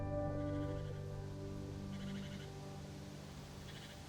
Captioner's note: birds chirping